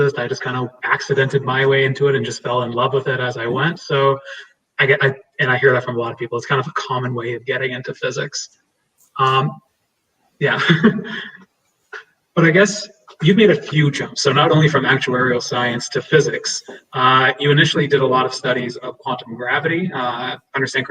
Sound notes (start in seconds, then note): 10.4 laughs